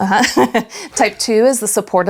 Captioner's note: laughs